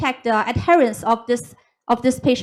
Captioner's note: none